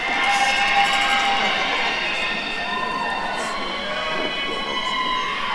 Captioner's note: attendees cheering